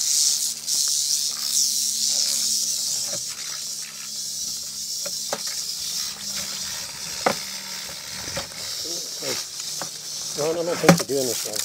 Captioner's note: snake rattling